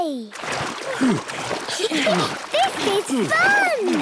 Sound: panting; snorts, giggles

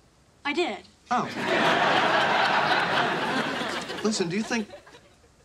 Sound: audience laughing

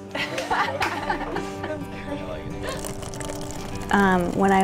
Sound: laughter

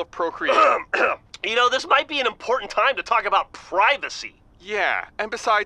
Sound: Grif clears throat loudly

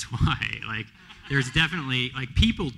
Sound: laughter

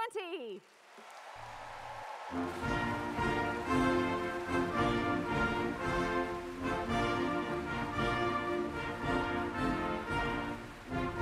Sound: cheers and Applause

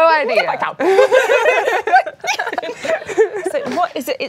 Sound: laughing

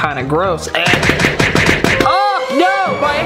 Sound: object banging

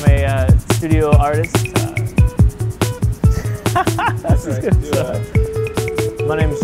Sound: laughter

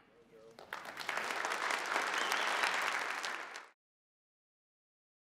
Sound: applause

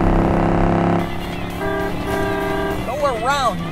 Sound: car honking

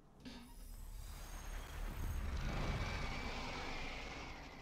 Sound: epic whooshing

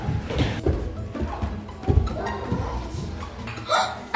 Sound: suspense music; feet thudding; child gasping

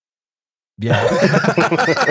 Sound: laughter

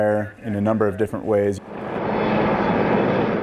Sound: helicopter whirring

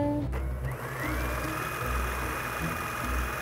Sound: whirring

